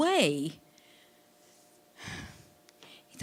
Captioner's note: sighing